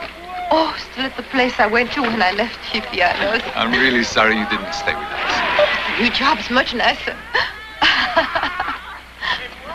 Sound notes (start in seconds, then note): 7.3 laughing